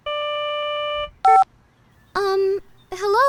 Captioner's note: phone beeps